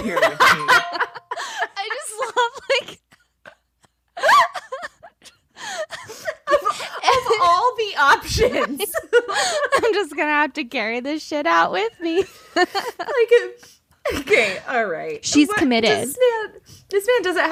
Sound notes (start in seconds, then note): 1.2 cracking up; 4.5 gasping